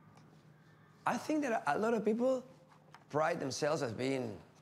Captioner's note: in English